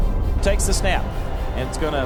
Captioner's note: voiceover